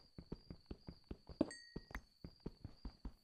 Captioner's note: thud thud thud plink